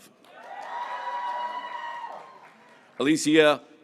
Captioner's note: graduates cheering